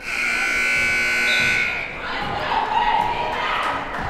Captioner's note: buzzer blares